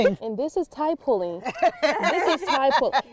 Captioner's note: people laughing